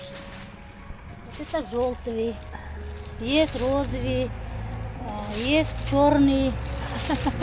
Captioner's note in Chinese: 俄语，听不懂